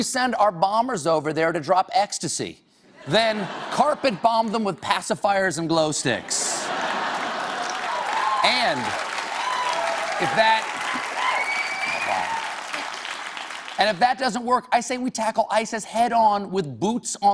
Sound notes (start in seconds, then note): 11.3 applause